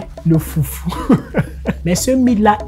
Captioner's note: laughter